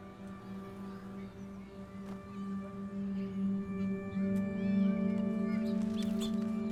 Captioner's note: soft poignant music; birds chirping